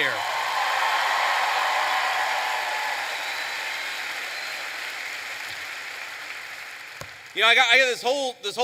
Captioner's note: applause